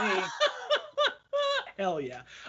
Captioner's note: laughing loudly